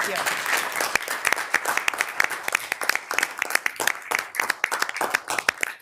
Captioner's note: attendees applauding